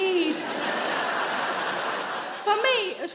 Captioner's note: audience laughing